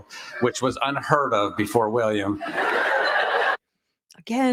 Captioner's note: laughter